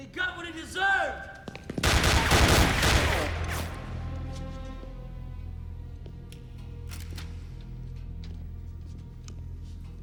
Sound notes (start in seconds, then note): 1.8 gunfire clattering